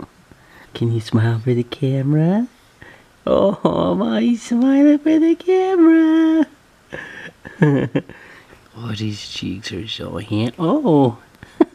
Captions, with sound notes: Can you smile for the camera. Oh, my, he's smiling for the camera (laughs). Oh these cheeks are so hand-- oh.